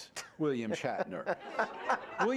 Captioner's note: laughter